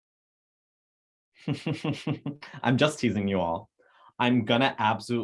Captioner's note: chuckles